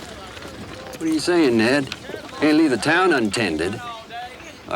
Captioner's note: none